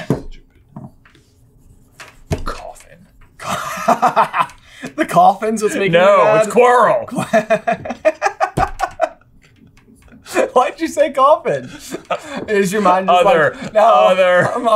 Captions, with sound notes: Coffin. [guffaws] The coffin's what's making you mad? No, it's Quirrell! [laughter] Why'd you say coffin? Is your mind just like... Other. Otheeer.